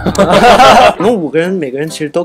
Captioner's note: hahahahahaha